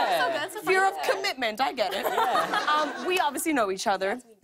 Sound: laughter

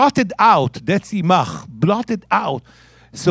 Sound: speaking in Hebrew

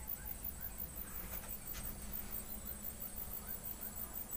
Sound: sound of crickets

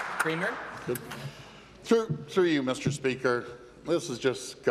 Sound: applause

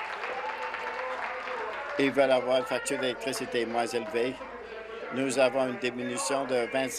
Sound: applause

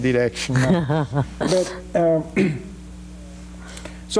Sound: laughing

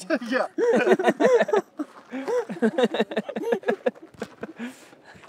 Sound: laughing

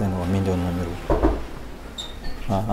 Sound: knocks

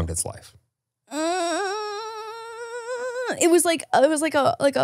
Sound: makes whine sound

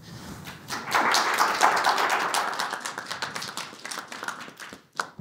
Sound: crowd applauds

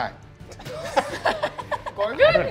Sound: all laughing

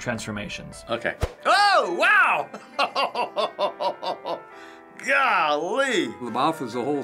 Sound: chuckles

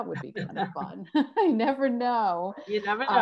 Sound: laugh

